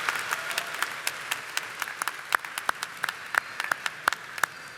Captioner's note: audience applauding